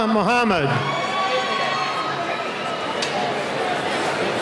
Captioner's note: cheering